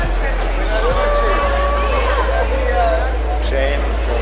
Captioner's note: crowd cheering